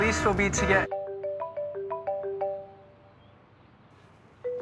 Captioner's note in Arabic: رنين الهاتف